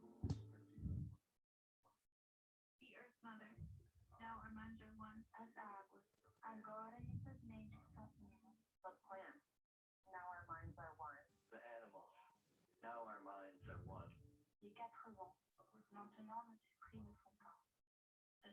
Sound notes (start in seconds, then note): 10.8 foreign language 00:46:28